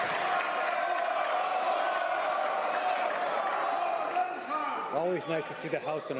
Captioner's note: some Applause